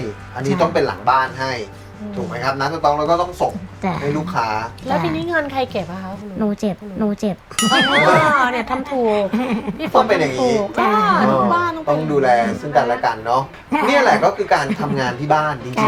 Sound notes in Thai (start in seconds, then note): 7.6 หัวเราะ